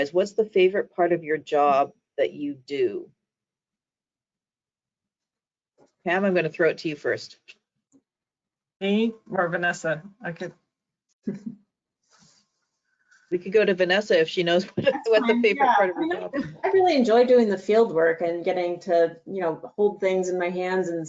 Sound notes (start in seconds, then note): 11.4 laughs